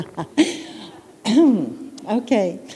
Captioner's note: laughter